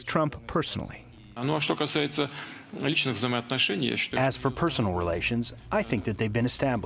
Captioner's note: through translator